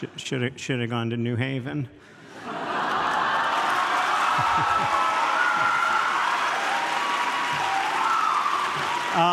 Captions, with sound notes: Should've gone to New Haven. (audience laughs and cheers)